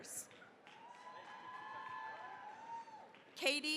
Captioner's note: cheering, applause